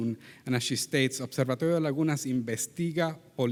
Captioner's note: speaks in Spanish language